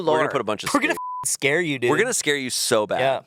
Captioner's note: beep